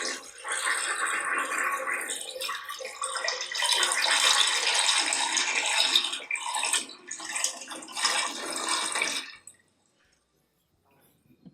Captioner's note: flushing toilet